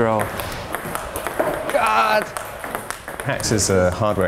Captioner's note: ball tapping